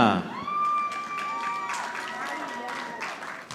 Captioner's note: audience applauding